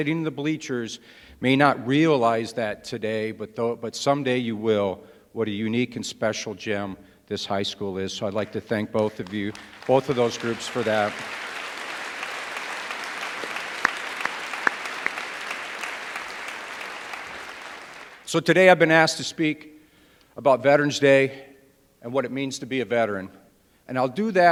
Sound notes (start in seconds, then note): 8.9 applause